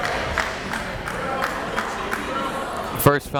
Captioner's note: crowd clapping